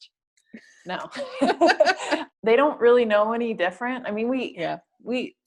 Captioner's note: laugh